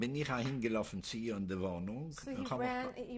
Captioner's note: speaking yiddish